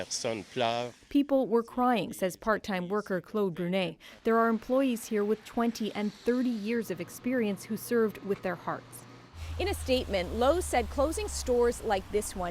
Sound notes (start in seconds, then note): 4.6 speaking French